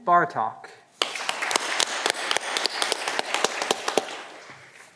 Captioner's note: audience clapping